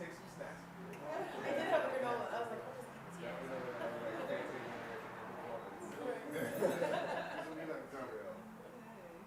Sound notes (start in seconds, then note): 4.1 participants laughing